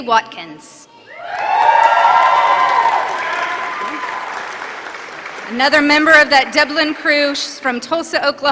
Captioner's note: applause